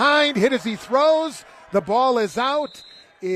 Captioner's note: applause